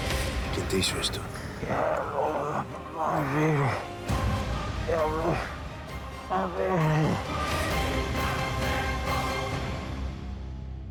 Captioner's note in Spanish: hablando con difucultad